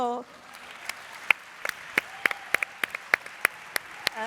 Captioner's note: audience applauds